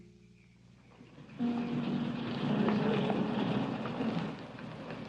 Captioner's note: car engine rumbling